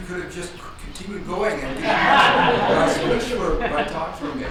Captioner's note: audience laughs